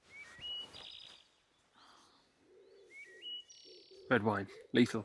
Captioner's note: birds chirping